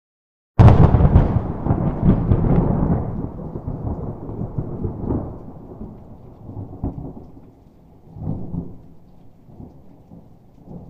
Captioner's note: thunder